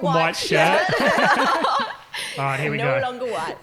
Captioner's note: laughing